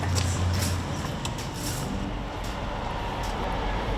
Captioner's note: train rattles